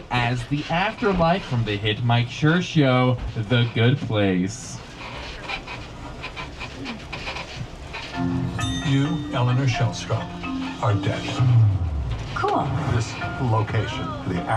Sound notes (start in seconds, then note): 5.5 tram creaks; 8.2 upbeat music plays